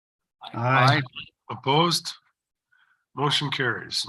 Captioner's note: silence